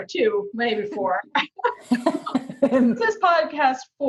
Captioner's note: laughing